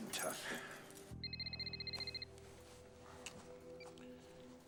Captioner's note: cell phone rings